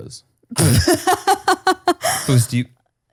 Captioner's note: laughs